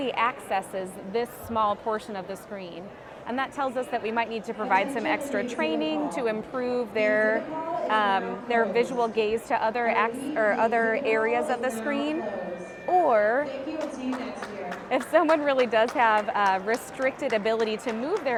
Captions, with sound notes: accesses this small portion of the screen and that tells us that we might need to provide some extra training to improve their, um, their visual gaze to other access or other areas of the screen. Or [clapping in background] if someone really does have, uh, restricted ability to move